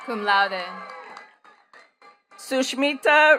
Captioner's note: attendees cheering and clapping